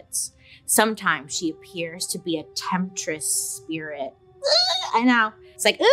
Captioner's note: squeals